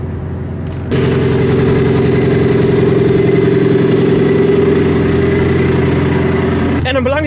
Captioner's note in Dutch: hemi motor geluid